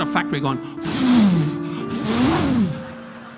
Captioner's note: Don blowing heavily through lips; audience laughing